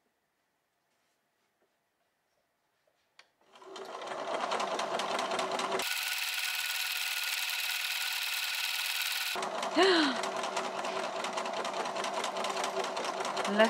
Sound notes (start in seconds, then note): 0.8 machine sounds speed up; 9.8 gasps